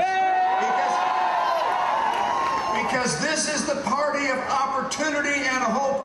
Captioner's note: cheering and applause